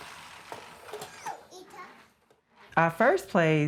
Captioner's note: toys rumbling; child babbling